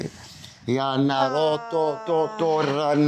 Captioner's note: non-english speech